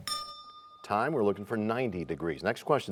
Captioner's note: bell rings, time expires